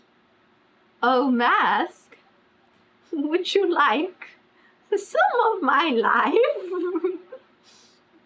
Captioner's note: laughs